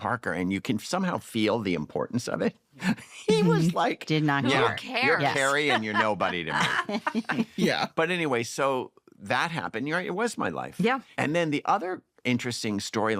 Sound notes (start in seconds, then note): 2.6 laughs; 5.0 laughs; 5.3 laughter